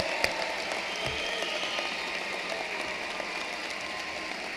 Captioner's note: cheering and applause